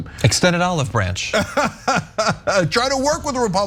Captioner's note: laugh